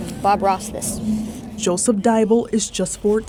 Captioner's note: chalk scraping